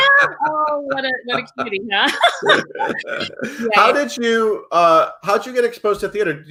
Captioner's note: laughs